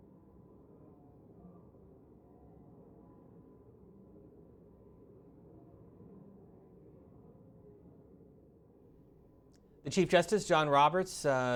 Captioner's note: silence